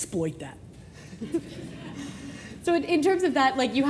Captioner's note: laughing